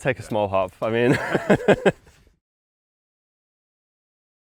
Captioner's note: chuckles